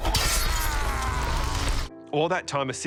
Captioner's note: pope exclaims